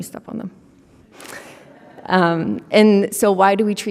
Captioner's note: audience laughing